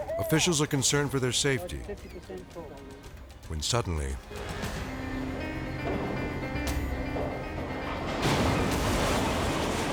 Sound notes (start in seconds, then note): 4.9 intense music; 6.8 boat creaking; 7.9 boat crashing